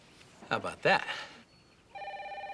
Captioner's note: cell phone ringing